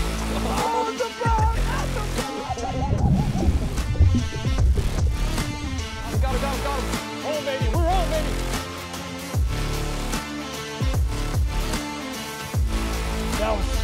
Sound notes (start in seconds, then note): 0.4 laughs; 2.4 water bubbling; 8.8 upbeat music